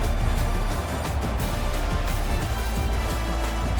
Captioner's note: crowd Noises